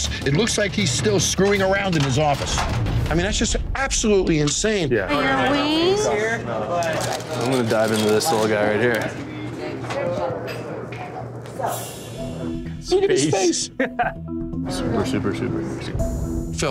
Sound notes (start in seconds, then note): 6.8 paper crinkling; 9.4 bar bustling; 11.6 foreboding chimes; 13.2 laughs